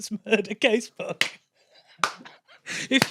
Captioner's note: giggles; wheezes faintly, claps